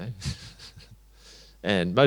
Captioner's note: chuckles